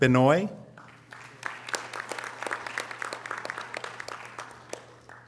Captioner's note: audience applause